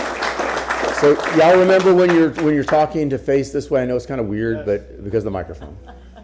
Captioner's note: applause